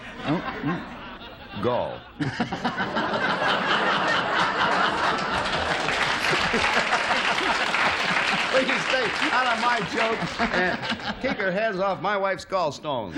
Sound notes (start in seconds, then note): 4.7 laughter; 7.5 applause